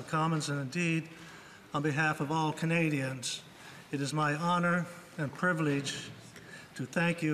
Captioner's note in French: voix de l'interprète